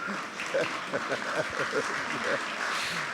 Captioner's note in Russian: Смех